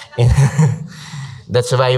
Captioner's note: audience laughs